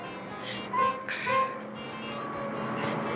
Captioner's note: sighing